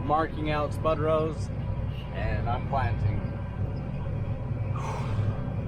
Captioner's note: sigh